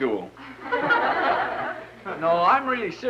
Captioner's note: laughter